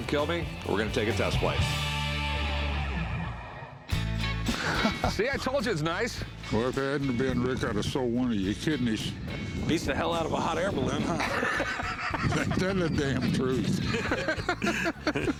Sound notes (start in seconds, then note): 4.4 laughs; 11.0 laughter